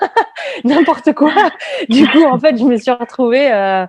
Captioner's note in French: rires